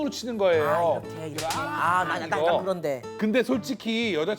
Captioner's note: smacking with a smile